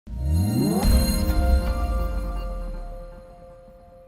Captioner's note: swoosh